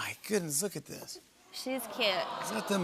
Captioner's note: audience "Awws"